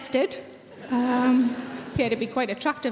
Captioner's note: audience laughing